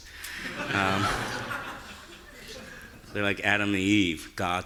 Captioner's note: audience laughing